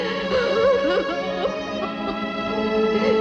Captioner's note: crying